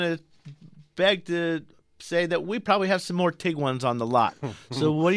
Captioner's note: laughs